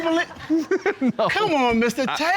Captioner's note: laughing